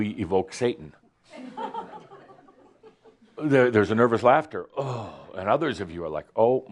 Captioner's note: some chuckles